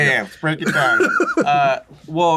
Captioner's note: laughs